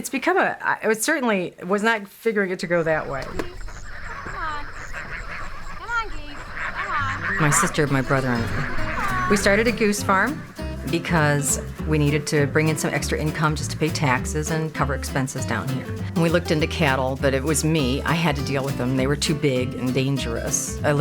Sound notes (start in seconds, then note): 2.9 honking